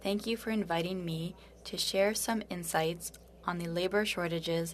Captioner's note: speaking French